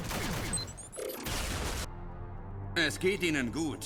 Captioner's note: boom